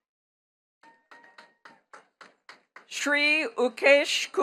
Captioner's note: attendees clapping